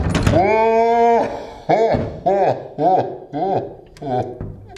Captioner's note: laughing